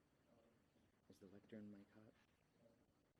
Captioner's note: voiceover